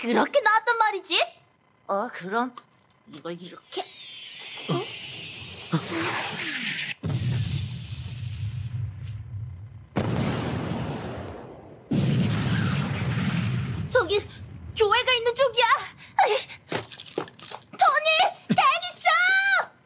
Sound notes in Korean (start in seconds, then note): 7.2 포격 소리; 11.9 포탄이 터지는 소리